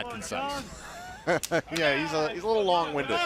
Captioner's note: laughter